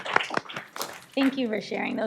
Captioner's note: applause